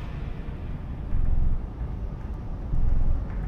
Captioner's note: deep rumble in the distance